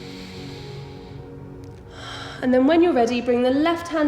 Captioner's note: heavy breathing